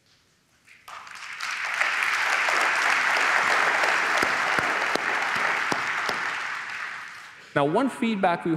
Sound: applause

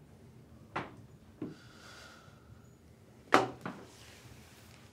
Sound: sighs heavily

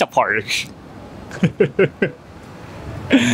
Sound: chuckles

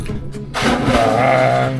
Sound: splash

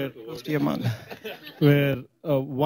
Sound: laughter

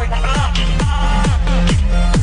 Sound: glitching

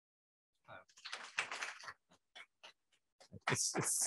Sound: applause

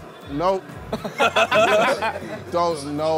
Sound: laughing

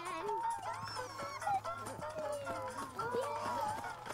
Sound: ponies squeal and cheer

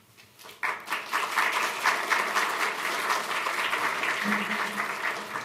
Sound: applause

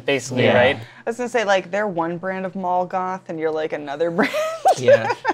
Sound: laughs

